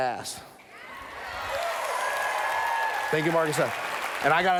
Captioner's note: cheers